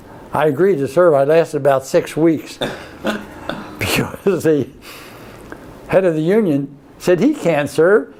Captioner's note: laughs